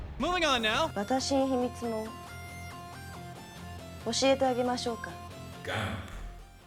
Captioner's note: speaks galactic language